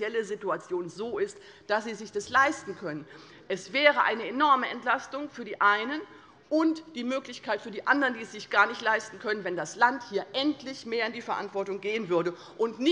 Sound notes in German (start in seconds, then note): none